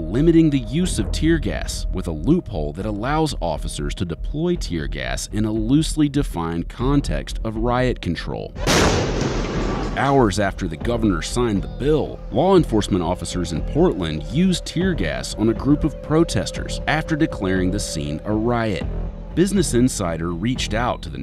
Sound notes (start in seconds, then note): 8.6 explosion